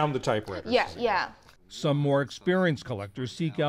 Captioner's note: voice-over